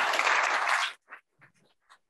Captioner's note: applause